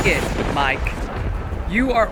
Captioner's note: thunder rumbling